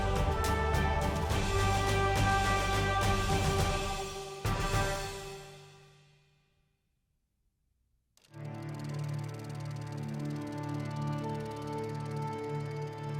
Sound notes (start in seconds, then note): 8.2 clicking reel; 8.5 soft instrumental music